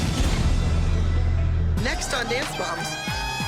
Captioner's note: cheering